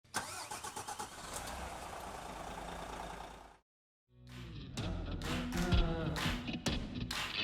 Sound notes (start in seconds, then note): 0.1 car starts; 4.2 mellow music